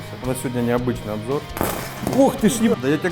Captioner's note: pop!